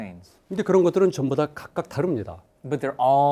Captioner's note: speaking in Korean